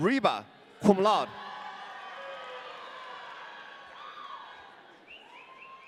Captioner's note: audience cheering